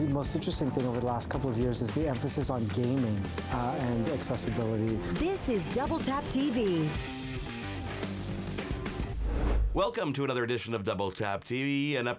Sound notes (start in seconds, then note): 5.3 voiceover